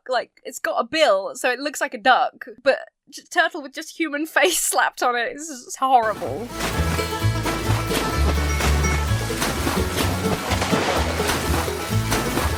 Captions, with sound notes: Like, it's got a bill so it looks like a duck. But turtle with just human face slapped on it is just horrible. (water splashes) (bluegrass music)